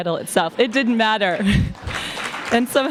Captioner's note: applause